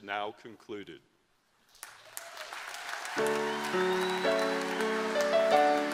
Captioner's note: applause